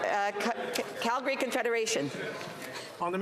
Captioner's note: crowd noise